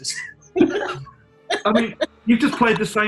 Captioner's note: laughter